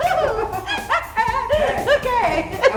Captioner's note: laughing